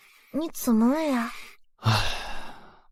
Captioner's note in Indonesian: Menghela napas